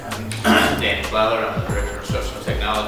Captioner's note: clears throat